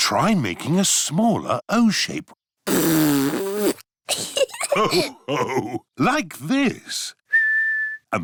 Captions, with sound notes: Trying making a smaller "O" shape. (BLOWS RASPBERRY) (LAUGHTER) Like this. (WHISTLES)